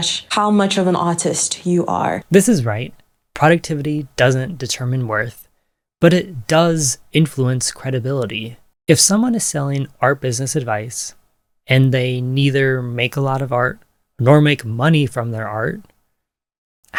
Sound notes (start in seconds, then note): none